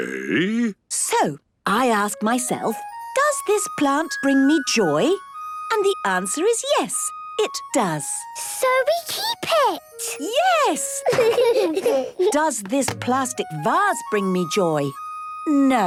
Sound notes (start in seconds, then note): 11.0 laughter